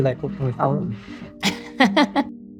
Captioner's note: laughing